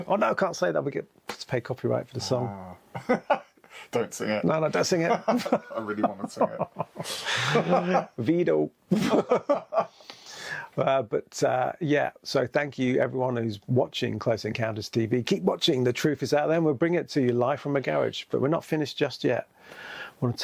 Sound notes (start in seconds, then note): 2.9 laughs; 8.9 both laughing